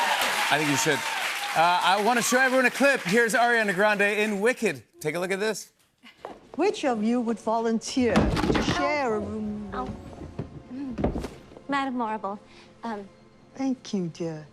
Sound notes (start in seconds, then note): 0.0 cheers and applause; 8.2 clattering